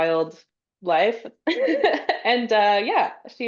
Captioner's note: laughs